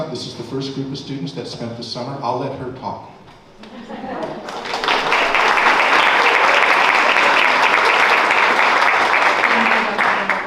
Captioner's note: applause